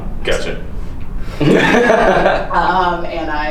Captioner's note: laughing